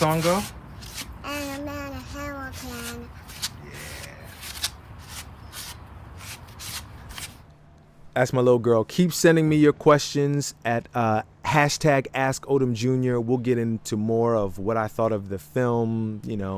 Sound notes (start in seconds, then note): 6.2 polystyrene rubbing